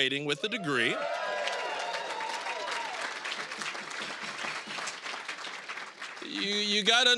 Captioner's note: applause, cheering